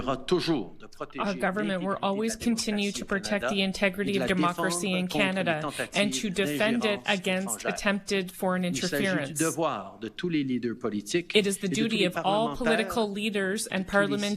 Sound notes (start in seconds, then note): 4.3 speaking French